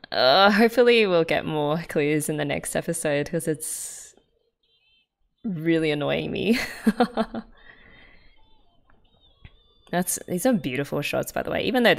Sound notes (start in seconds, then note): 6.5 laughs